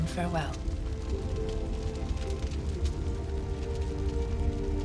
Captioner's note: fire crackling